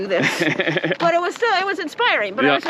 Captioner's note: laughs